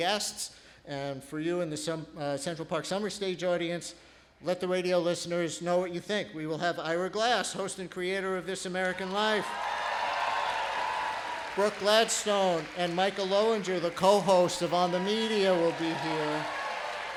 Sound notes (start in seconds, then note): 11.4 applause